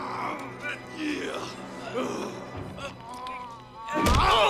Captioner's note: Knox grunting